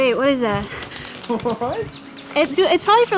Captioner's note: Ali laughing